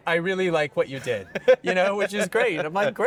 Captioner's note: laughing